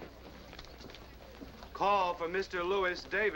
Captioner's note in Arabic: تعليق صوتي